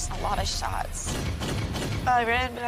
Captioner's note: gun firing